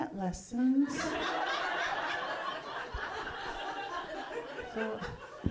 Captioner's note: audience laughing